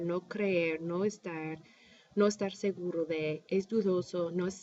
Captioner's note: speaking spanish